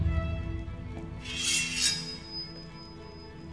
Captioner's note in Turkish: Kılıç Sesi